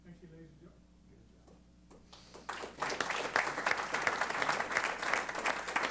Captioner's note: applause